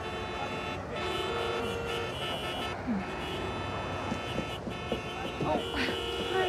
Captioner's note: car horns continue honking